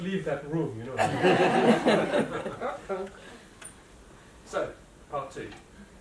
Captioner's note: laughter